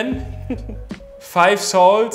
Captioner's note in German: Lachen